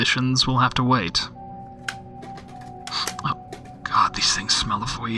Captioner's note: cassette clattering as it’s picked up